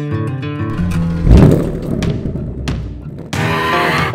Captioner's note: revs